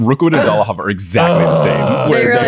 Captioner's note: groaning